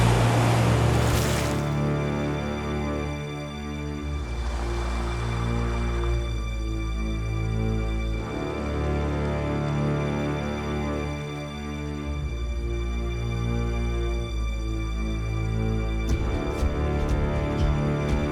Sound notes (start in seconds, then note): 4.3 water lapping; 16.0 suspenseful music